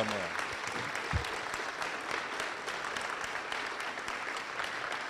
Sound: cheers and applause

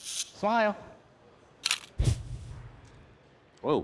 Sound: camera shutter clicks

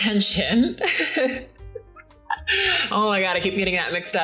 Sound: chuckles

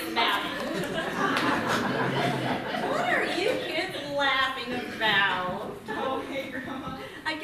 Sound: laughter

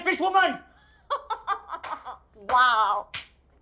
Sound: Asha laughing and clapping

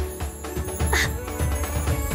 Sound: laughs

